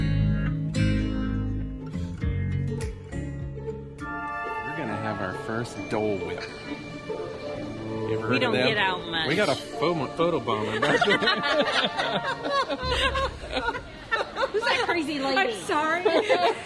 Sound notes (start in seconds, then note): 10.6 laughing